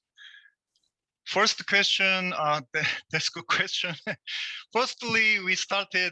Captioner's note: laughs